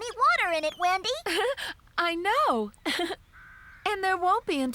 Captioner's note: giggling